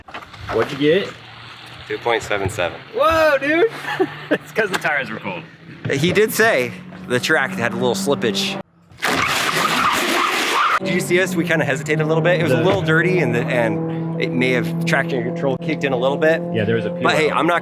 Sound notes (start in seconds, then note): 9.0 car squealing